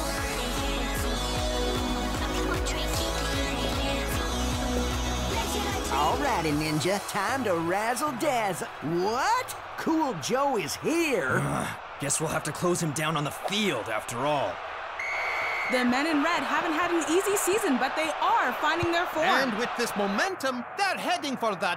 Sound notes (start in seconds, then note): 14.9 whistle blowing